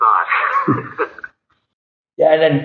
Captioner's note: laughing